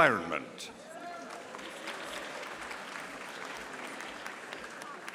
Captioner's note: audience applauding